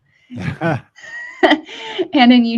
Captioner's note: chuckle